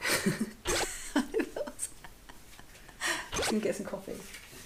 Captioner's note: laughs